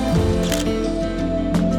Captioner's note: camera shutter clicks